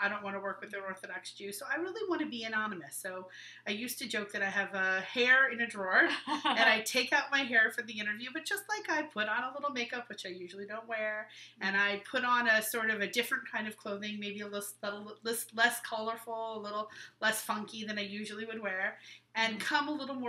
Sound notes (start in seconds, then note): 6.0 laughing